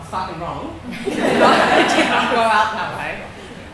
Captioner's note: laughing